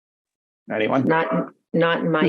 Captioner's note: laughs